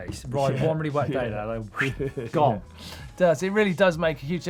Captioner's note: talking fast